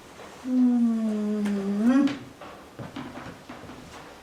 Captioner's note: Alice moans